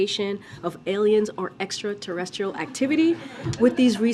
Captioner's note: laughter